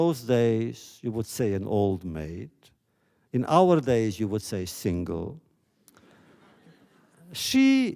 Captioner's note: laughter